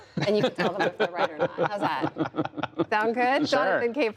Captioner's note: laughter